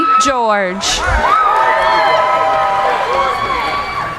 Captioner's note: cheering